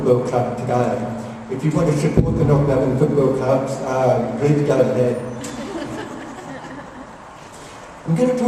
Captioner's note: laughter